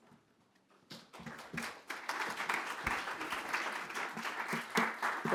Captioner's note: applause